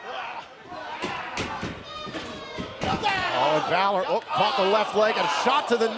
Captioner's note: fans chanting